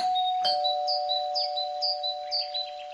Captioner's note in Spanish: ding dong